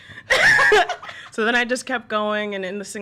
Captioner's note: laughs